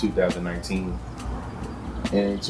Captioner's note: birds Chirping